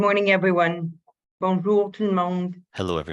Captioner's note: speaking French